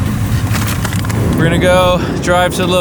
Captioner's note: paper rustling